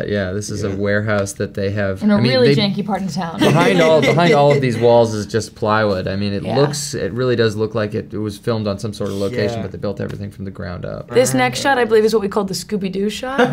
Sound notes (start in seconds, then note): 3.4 laughter